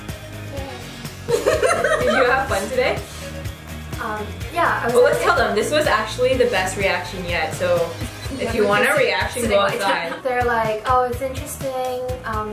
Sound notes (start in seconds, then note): 1.3 laughs